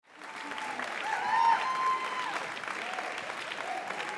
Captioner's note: applause